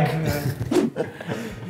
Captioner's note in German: woosh